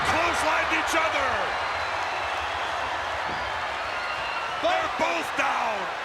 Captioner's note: crowd cheering